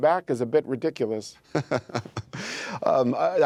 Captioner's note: laughter